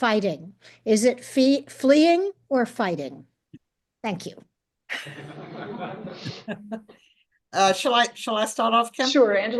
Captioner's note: laughter